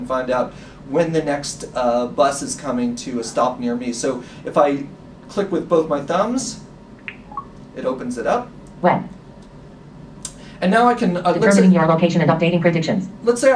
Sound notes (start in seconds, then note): 7.0 smartphone sounds